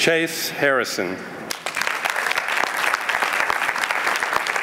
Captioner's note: applause